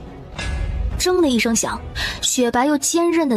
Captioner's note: clang!